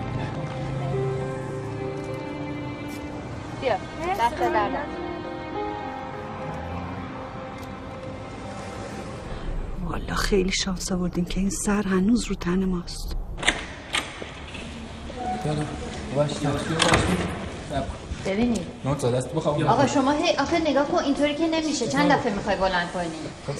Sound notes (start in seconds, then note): 0.3 cinematic music; 13.0 door opening; 16.7 door closing; 17.7 roar of chatter